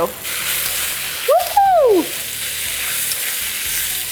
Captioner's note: food sizzling; screams